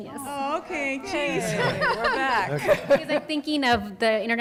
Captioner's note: laughter